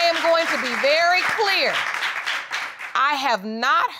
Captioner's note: audience applauding